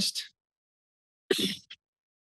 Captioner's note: sneeze